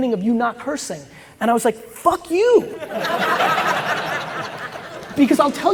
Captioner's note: audience laughs